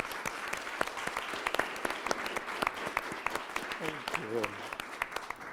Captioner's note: applause